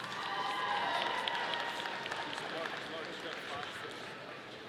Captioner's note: audience applauding